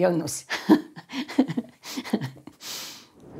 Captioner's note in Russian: смеется